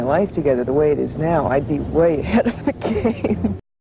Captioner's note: laughing